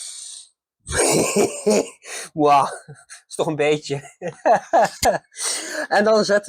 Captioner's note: loud laughter